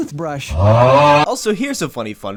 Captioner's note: TikTok snore